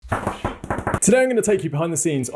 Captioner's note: fingers tapping